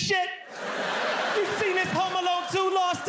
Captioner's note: audience laughs